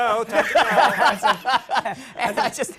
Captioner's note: laughter